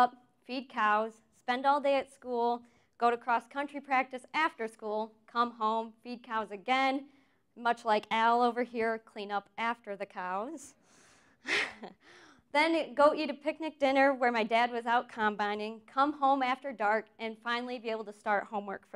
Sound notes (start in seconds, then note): 11.5 chuckles